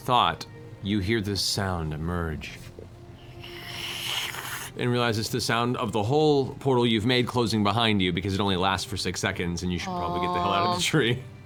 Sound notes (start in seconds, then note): 2.7 vacuum sealing sound